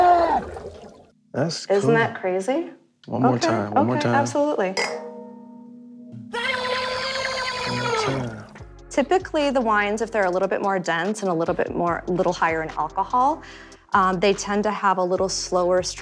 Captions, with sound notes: That's cool. Isn't that crazy? One more time. One more time. Okay. Okay. Absolutely. [ Clink echoes ] [ Screaming ] One more time. Typically, the wines -- if they're a little bit more dense and a little bit higher in alcohol, they tend to have a little slower stream of legs.